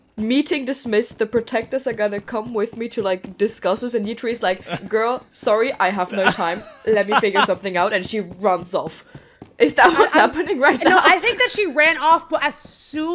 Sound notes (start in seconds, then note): 6.0 laughs; 8.9 laughing